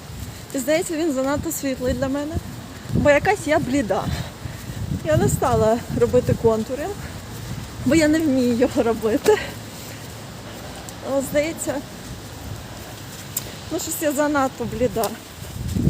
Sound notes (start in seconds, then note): 9.2 ahahahaha